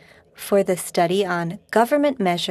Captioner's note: speaking French